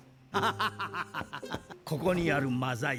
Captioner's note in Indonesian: tertawa